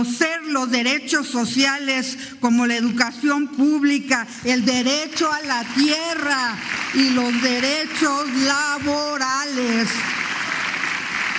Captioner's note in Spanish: aplausos